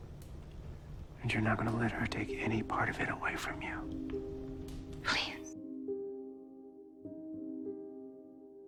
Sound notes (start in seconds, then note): 1.3 whispering; 5.2 voiceover